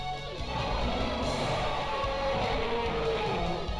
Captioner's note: roars